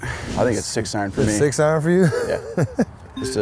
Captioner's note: laughs